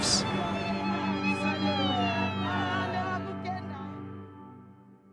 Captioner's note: cheering and singing